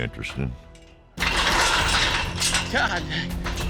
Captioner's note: pens clanking